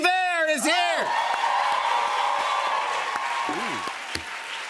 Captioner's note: cheers and applause